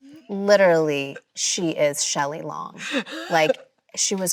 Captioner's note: Chloe laughs